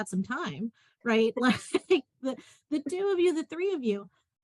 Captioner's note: laughter